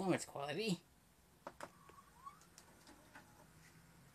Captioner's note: vcr whirs to life